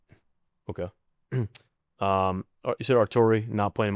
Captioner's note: clears throat